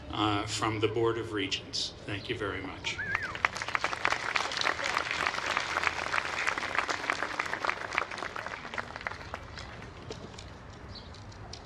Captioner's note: applause